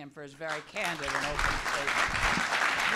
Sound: applause

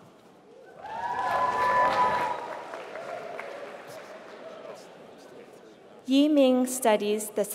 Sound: applause

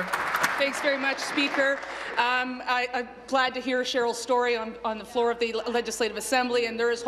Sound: applause

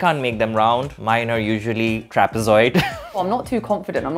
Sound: laughs

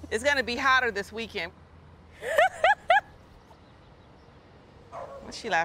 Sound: laughs

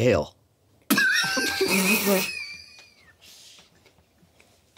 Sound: everyone laughs

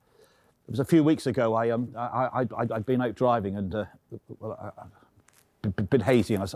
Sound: stammering

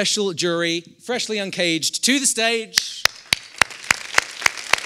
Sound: applause

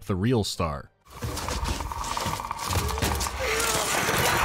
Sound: low, menacing rattle

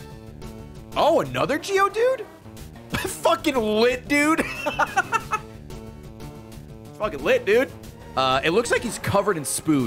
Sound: laughs

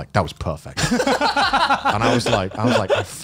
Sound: laughs

